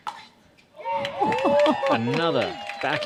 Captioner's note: applause